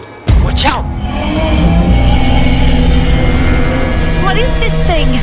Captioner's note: roar